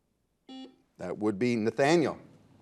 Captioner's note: buzzer